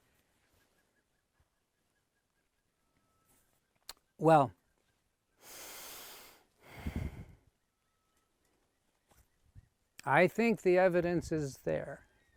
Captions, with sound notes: Well, (sighs) I think the evidence is there